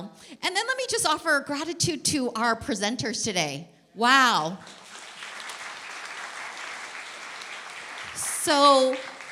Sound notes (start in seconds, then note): 4.6 applause